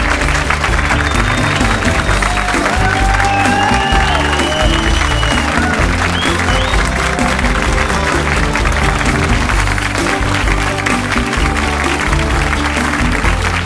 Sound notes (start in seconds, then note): 0.0 audience applauds; 0.3 upbeat music; 2.0 audience cheers; 3.7 audience whistles; 9.9 upbeat music continues